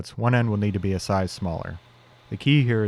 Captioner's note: lathe whirring